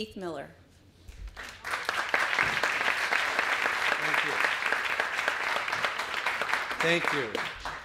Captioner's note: applause